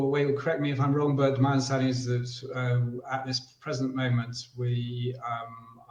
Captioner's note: murmurs